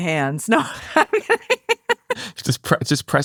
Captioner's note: laughing